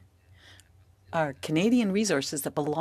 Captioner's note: speaking French